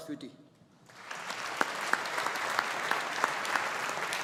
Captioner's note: audience applauding